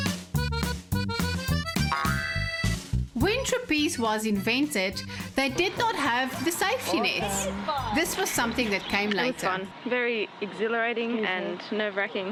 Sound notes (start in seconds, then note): 3.5 narrating